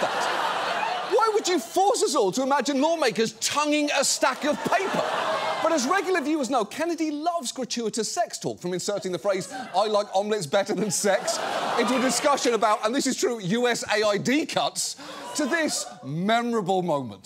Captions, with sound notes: Why would you force us all to imagine lawmakers -tonguing a stack of paper? -(AUDIENCE LAUGHING) But as regular viewers know, Kennedy loves gratuitous sex talk, from inserting the phrase, "I like omelets better than sex," into a discussion about, and this is true, USAID cuts, to this memorable moment.